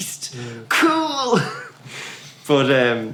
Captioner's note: laughs